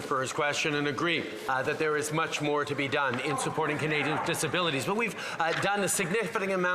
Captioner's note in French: voix de l'interprète